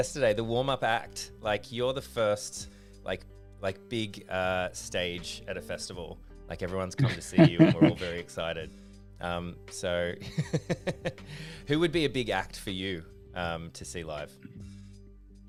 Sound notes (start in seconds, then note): 7.0 laughter